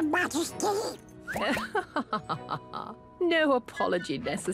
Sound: chuckles

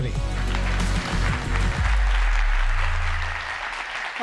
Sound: audience applauds

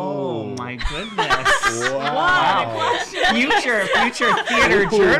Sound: laughing

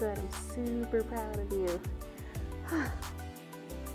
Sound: sighs

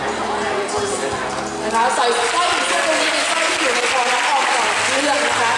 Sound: applaud

